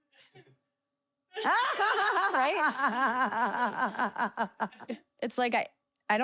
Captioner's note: laugh